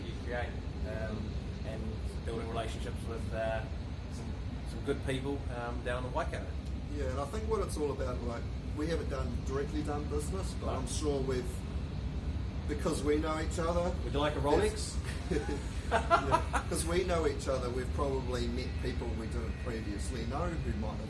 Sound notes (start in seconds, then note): 15.0 laughs